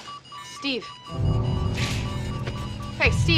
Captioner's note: beeping